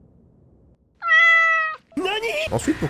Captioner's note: cat's meow